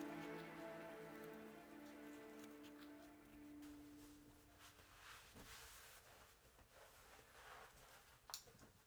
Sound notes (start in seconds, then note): 4.8 towel rustling